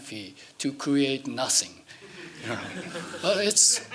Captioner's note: laughing